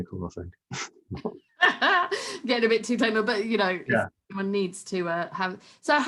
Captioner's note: laughs